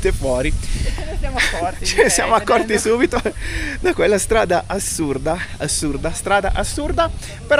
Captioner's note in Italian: risate